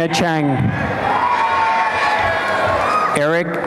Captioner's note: applause and cheering